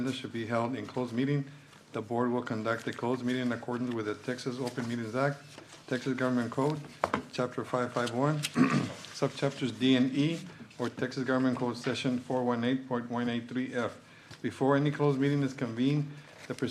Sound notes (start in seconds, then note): 8.4 clears throat